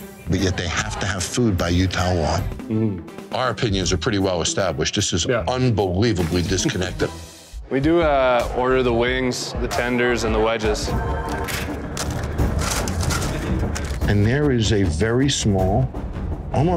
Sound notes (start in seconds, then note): 10.9 suspenseful music; 11.4 bag crinkling